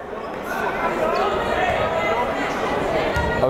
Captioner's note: yelling